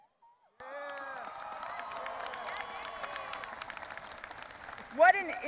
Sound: audience applauding and cheering

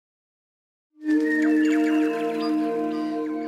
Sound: birdsong

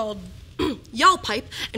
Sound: clears throat

